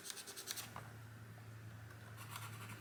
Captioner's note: pencil marks board